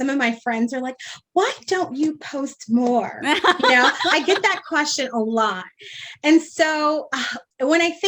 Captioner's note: laughs